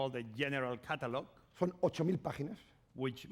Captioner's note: speaking spanish